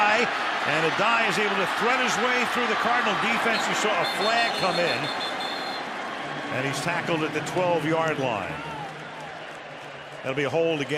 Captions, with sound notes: That's Addai. And Addai is able to thread his way through the Cardinal defense. You saw a flag come in. [whistle] And he's tackled at the 12-yard line.